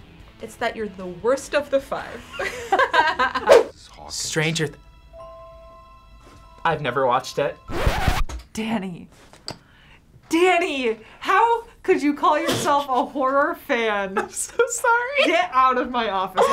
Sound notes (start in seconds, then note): 2.2 laughs; 7.7 record scratch